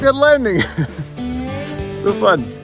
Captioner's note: laughing